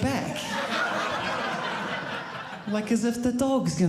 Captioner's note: audience laughing